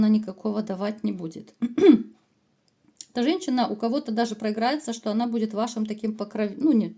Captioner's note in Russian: откашливается